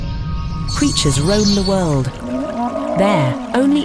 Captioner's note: dinosaurs growling